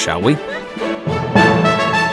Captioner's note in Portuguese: Risos